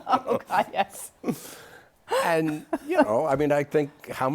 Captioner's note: laughter